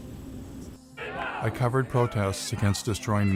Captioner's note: crowd chanting